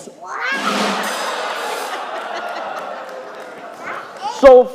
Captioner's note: crowd laughing